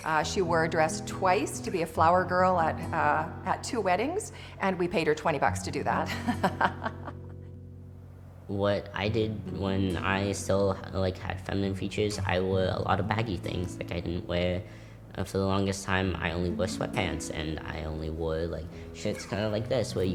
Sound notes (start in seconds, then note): 5.9 laughing